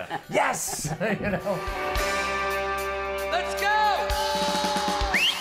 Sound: laughter

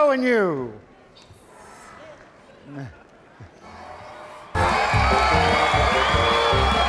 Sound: audience cheering; exciting music

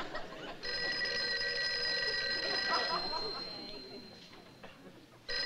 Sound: phone rings

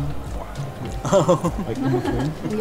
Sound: giggles

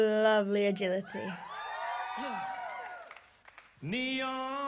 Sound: audience cheers

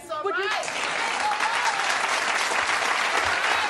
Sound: audience applauding

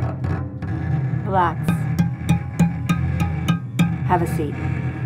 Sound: tinny thumping

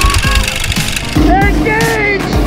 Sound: motors roaring

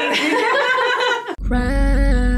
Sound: laughter

